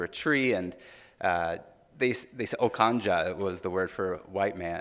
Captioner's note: speaking in foreign language